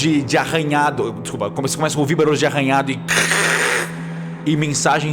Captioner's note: scratch